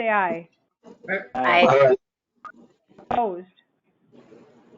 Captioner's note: chorus of aye's